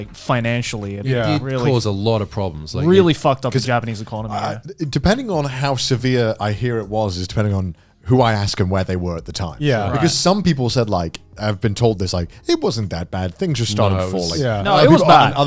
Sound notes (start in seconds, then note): 2.3 speaking in foreign language; 4.3 laughs